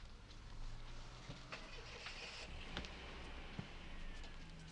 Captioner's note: car starts